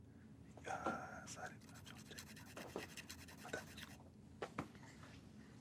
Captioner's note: whispers